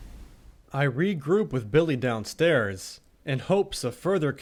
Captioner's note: voiceover